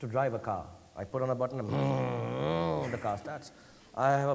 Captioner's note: imitates a revving sound